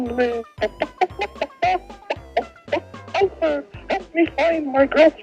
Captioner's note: chicken Noises